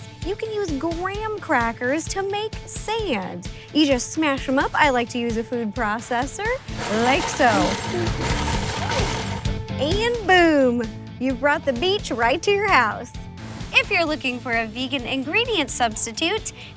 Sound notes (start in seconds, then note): 6.6 upbeat music; 6.7 processor whirring